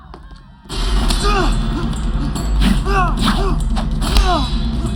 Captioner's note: grunting, yelling